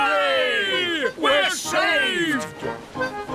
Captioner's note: none